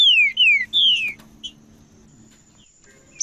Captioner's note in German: trinca ferro cantando